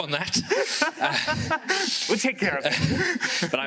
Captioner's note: laughs